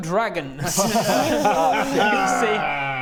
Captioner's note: laughs?